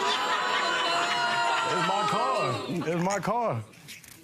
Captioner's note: audience exclaiming